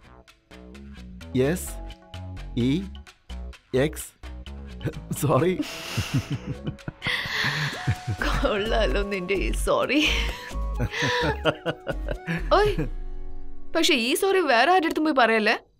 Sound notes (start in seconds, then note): 10.7 Giggling; 10.7 Chuckling